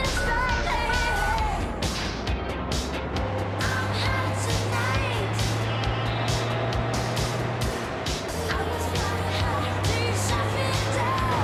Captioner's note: engine revving; upbeat music